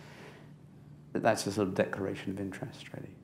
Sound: none

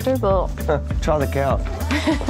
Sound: scoffs; laughs

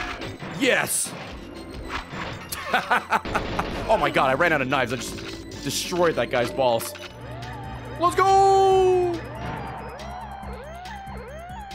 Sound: laughs

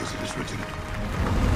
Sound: applause

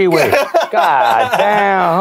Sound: laughs

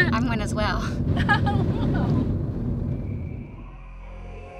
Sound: laughing

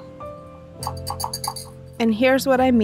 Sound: whisk clangs

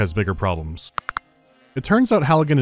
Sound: crack

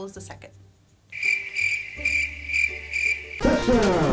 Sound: crickets chirping

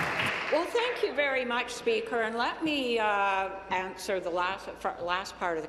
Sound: applause

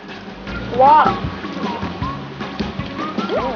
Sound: peels out

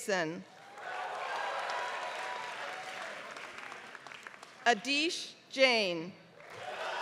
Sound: applause; applause

